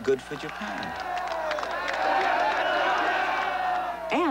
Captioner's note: cheering